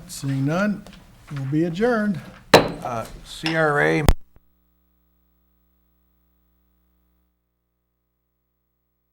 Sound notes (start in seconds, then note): 2.5 gavel banging